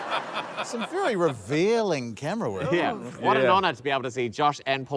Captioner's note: laughter